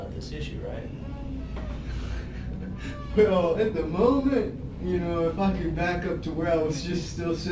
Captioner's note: laughs